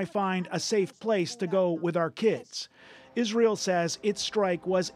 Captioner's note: speaking alternate language